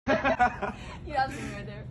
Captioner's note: both laughing